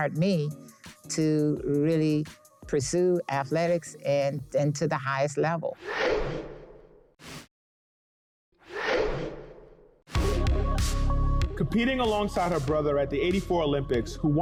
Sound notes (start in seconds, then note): 5.9 air whooshing; 10.1 mellow music